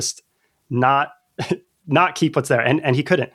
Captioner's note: laughter